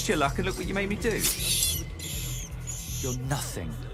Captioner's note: squealing